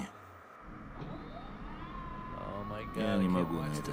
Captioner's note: whirring